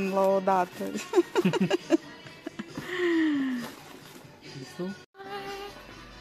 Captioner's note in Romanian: Râsete